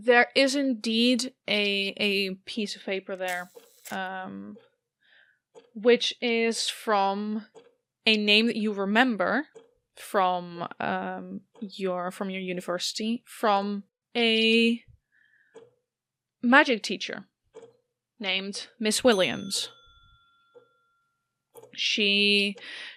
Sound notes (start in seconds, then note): 4.3 mechanical whir; 19.0 bell dings